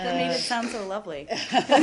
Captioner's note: laughter